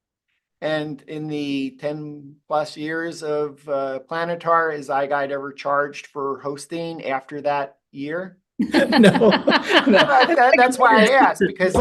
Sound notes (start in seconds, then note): 8.6 laughing